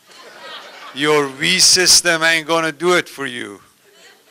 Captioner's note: laughter